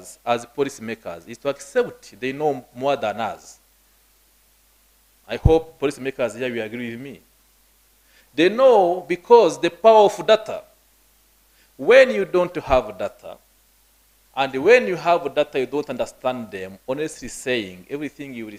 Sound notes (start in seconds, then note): none